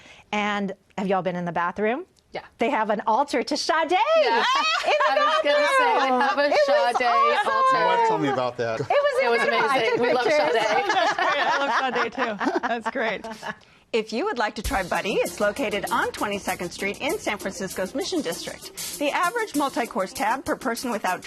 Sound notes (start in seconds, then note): 6.2 laughter